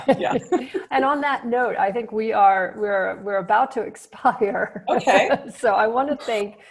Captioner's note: laughs